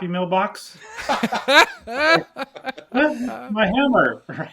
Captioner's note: all laughing